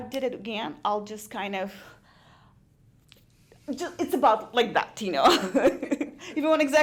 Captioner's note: laughs